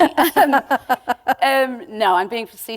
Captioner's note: laughter